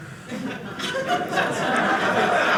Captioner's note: audience laughing